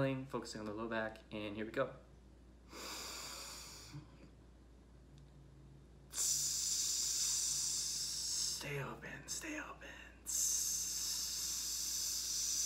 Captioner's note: inhales; hisses